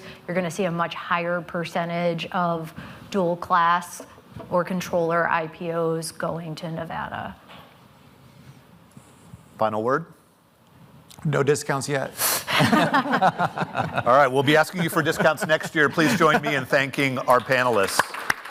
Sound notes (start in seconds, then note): 12.4 panelists laughing